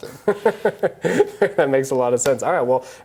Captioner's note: laughter